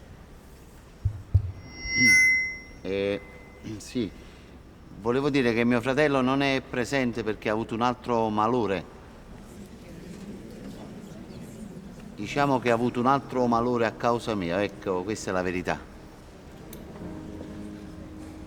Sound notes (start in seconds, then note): 1.0 microphone whistling; 9.0 crowd whispering loudly; 16.4 melancholic music playing